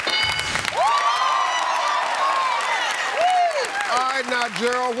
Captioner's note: cheering and applause